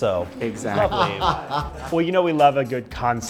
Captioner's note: Ruthie laughing